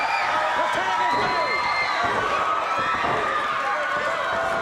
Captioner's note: audience cheers